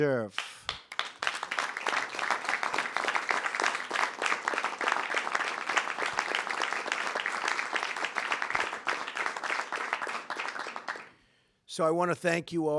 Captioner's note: applause